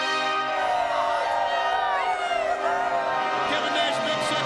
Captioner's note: crowd cheering